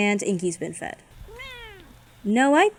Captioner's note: Inky meows